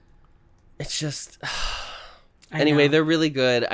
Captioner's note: sigh